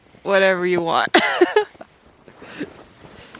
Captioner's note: laughs in high altitude